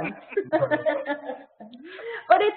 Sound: laughter

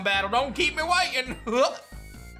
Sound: chuckles

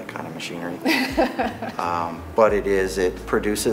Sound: laughs

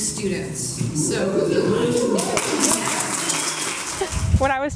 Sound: applause

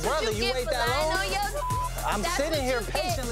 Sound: beep

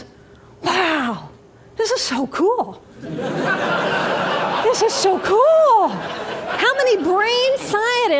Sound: laughter

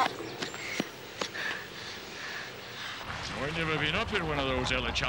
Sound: panting

